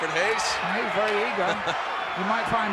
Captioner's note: laugh